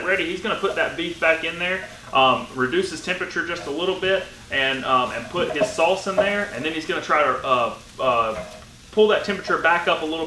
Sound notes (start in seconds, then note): none